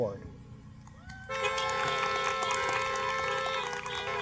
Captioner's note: applause